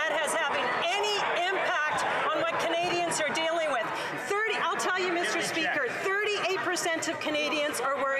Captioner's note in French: voix de l'interprète